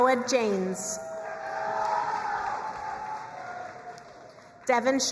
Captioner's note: crowd cheering and applauding